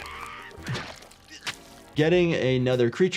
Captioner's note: liquid splattering